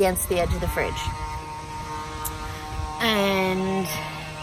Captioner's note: incessant house sanding continues